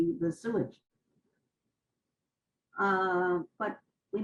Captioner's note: pauses for 3 seconds